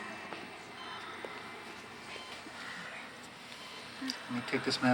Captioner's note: machines beeping; Nancy moaning